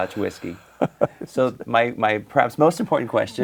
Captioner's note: laughs